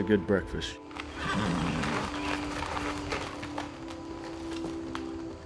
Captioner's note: horse whinnies